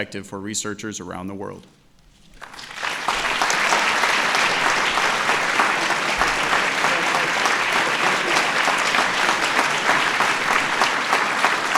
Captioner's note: applause